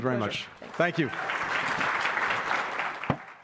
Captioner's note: applause